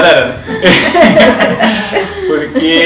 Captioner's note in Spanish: Risas